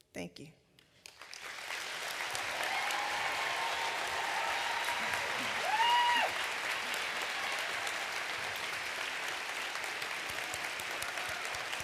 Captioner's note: applause